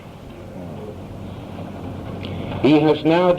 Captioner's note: crowd murmuring